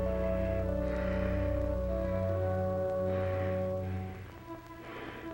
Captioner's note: Gilman breathes heavily; suspenseful orchestral music